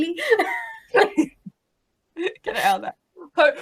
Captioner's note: laughing